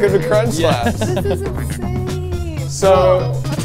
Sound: laughing

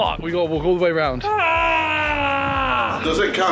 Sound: HARRY groaning

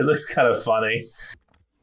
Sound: laughs

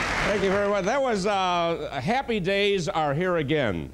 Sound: applause

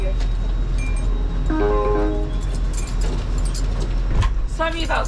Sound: door chime sounds

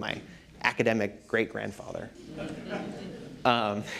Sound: laughter

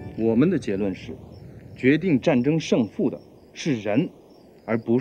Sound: speaking foreign language

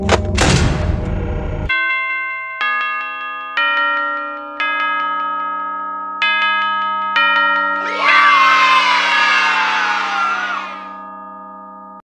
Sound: bells

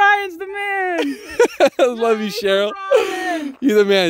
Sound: laughing

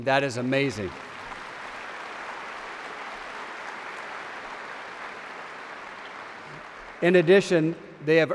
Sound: applause

